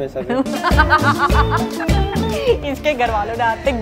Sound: laughs uncontrollably

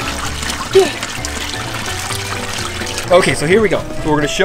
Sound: water splashing

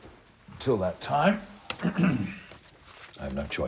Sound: clears throat

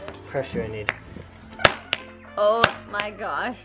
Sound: hammer smacking

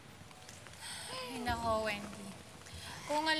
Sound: exhales; sighs

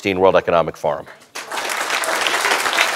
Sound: applause

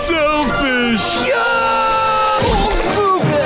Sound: screaming

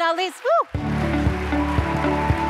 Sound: cheers, applause

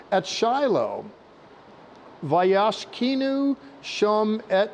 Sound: speaking in Hebrew

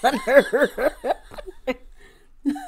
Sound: laughing

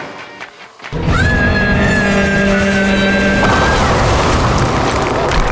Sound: screaming

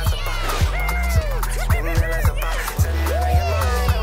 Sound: cheering

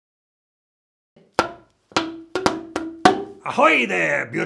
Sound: bamboo bonks

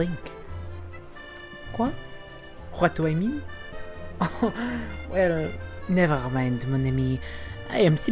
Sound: awkward laugh

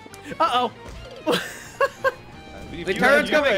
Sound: laughs

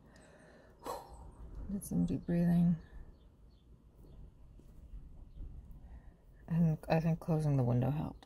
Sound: exhales

